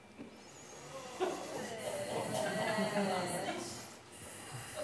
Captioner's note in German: Publikum ruft angewidert